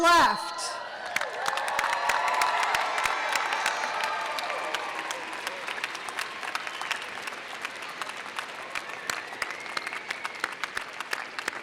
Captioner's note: audience cheers and applause